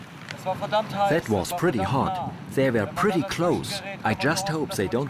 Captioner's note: in German